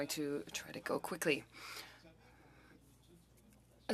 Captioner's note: speaking french